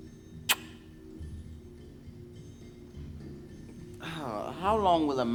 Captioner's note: gravedigger smooches kiss